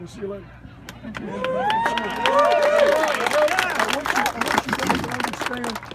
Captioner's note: applause & cheers